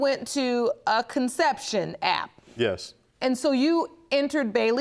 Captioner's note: none